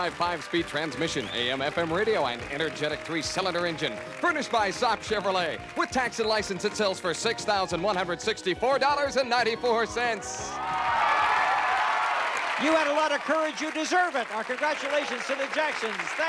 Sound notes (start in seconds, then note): 9.3 applause